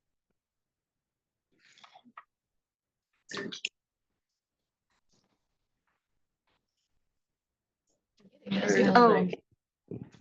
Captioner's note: attendees chattering